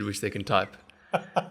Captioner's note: laugh